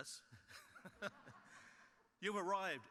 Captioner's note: chuckles